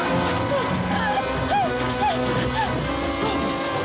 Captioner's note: gasping